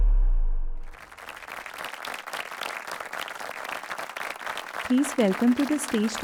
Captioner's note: audience applauding